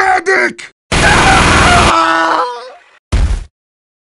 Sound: minigun noise followed by screaming

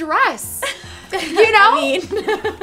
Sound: laughs

